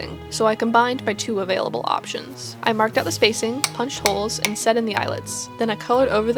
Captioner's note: sound of holes being punched